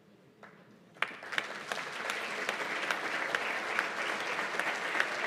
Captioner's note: applause